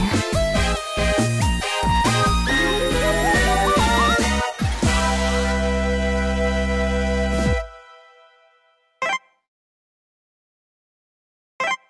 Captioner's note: beep